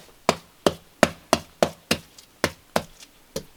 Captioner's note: tapping